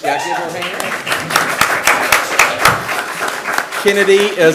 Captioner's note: attendees applauding and cheering; attendees applaud